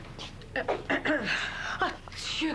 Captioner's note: Toussotement